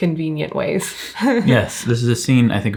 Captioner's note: chuckles